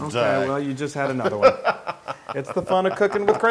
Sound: laugh

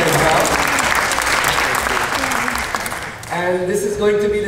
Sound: clapping

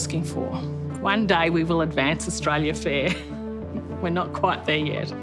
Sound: chuckles

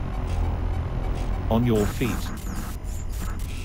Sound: computer Voice

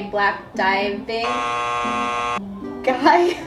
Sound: buzzer buzzing

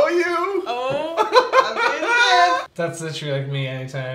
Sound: laughs

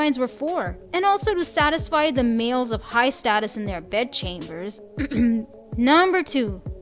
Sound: clears throat

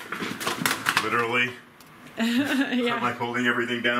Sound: laughs

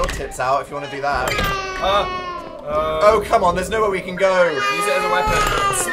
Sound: door creaks louder; door creaks even louder, baby crying; wails

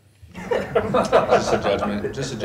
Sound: laughter

